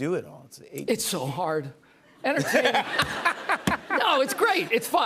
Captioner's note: laughter